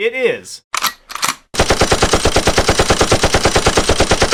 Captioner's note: gunshots